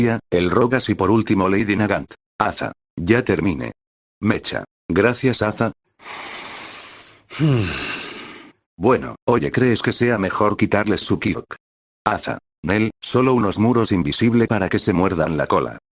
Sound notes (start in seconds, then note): 6.0 breath_01